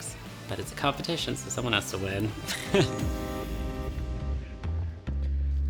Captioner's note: chuckles